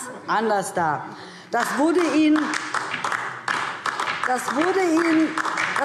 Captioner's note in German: Beifall DIE LINKE